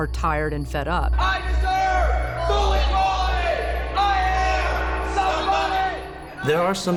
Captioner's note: protesters chant